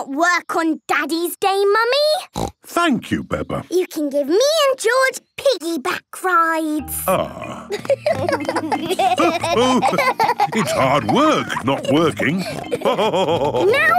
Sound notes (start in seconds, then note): 7.1 giggling; 12.8 laughing